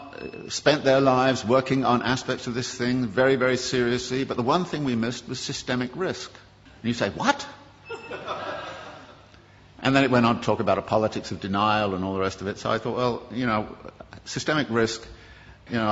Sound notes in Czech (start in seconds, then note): 7.8 Smích